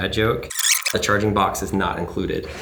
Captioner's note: tape rewinding